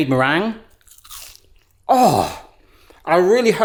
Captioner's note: crunching